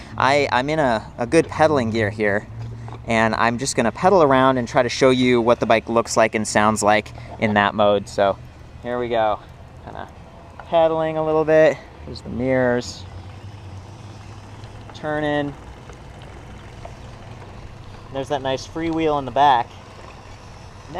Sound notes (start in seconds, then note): 15.8 wheel clicking rapidly